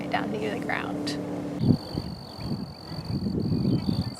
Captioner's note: insect sound